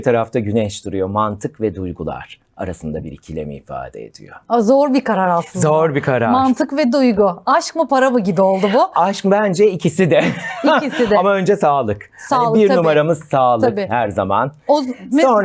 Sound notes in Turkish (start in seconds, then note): 10.0 kahkaha